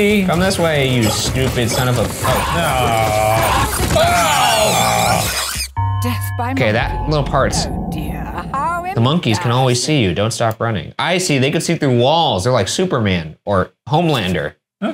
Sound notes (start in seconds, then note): 3.9 Murder Monkey screeching